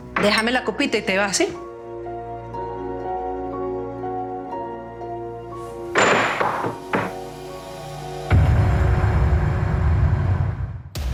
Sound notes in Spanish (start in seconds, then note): 5.9 Ruido al tirar el vaso